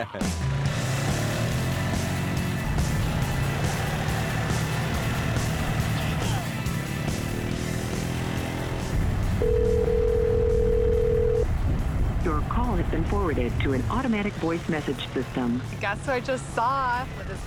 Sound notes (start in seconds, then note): 0.0 loud rock music; 9.4 telephone ringing; 12.2 robot voice